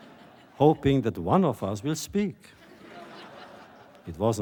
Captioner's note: laughter